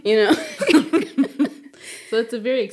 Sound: speakers chuckling

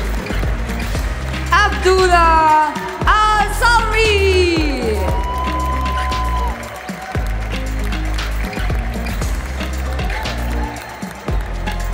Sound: applause; applause

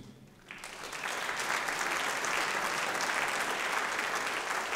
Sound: audience applauding

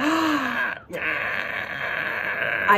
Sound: gasp

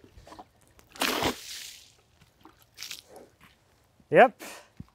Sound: water splashes

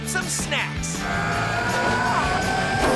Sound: grunting

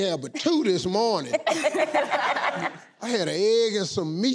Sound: laughing

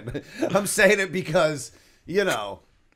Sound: laughter

